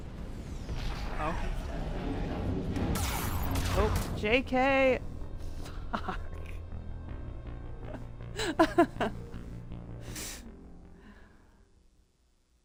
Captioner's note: laughter